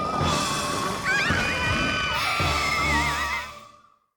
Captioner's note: all scream